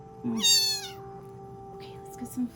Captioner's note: kitten squeals